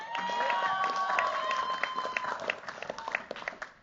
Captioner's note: cheers, applause